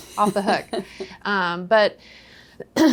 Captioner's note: laughing